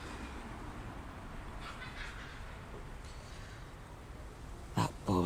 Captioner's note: child laughing